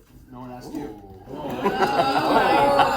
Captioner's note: ooohs